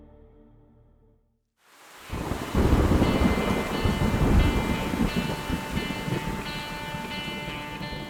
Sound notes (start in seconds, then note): 1.8 ran and thunder rumbling; 2.2 intense music